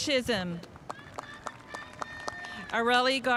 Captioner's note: spectators applauding